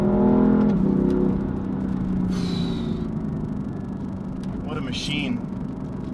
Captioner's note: car engine roars; sighs